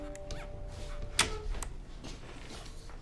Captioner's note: radio off